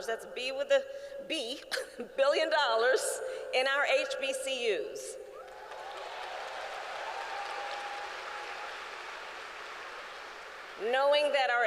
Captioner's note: applause